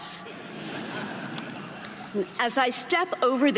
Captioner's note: audience laughing